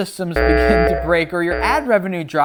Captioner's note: alarm blaring